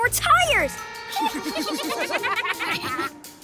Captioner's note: giggling